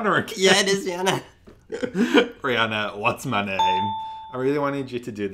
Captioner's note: laughs